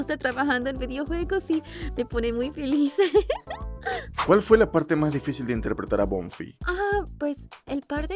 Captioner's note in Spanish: risas